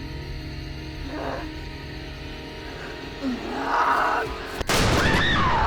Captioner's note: grunting; gunshot